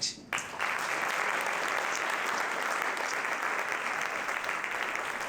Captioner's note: applause